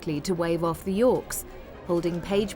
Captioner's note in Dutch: none